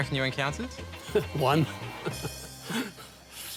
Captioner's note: chuckles